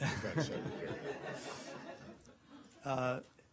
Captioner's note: laughter